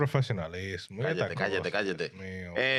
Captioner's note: speaking In Foreign Language